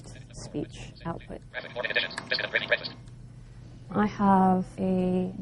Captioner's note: computer talking fast